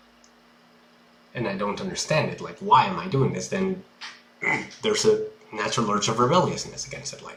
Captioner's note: grunt